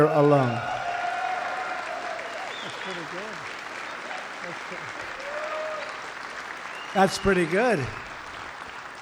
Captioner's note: applause